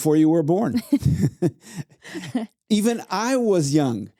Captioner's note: laughing